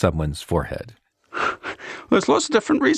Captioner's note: chuckles